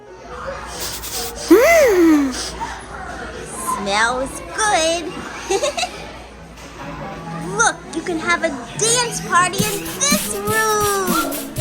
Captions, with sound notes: Smells good! (LAUGHS) Look! You can have a dance party in this room!